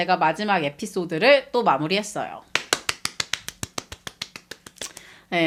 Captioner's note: applause